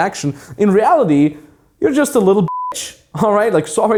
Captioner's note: beep